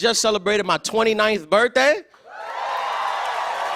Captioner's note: cheers and applause